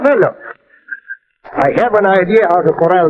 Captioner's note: chuckling